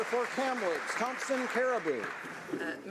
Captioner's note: applause